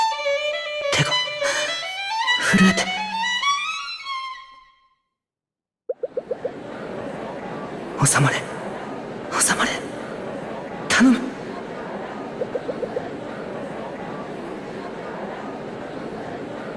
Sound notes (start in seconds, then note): 6.8 murmur murmur…; 14.2 murmur murmur…